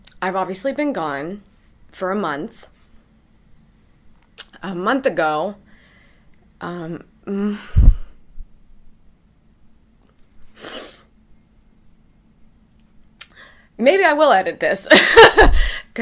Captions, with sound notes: I've obviously been gone for a month. A month ago... (sniffs) Maybe I will edit this, (laughs)